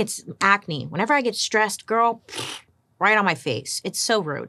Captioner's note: sputters